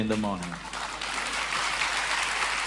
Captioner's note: applause